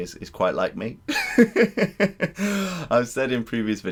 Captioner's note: laughter